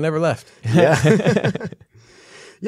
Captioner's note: laughter